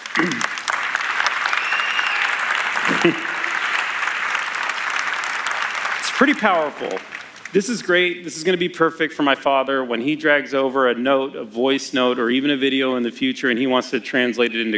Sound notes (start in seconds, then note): 4.5 applause; 6.5 cheers